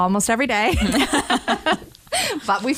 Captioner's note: laughter